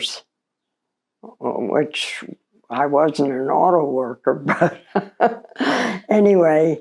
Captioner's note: laughs